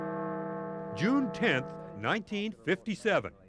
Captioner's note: bell tolls